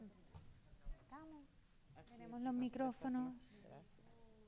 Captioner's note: speaking spanish